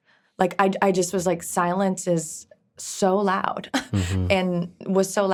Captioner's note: scoffs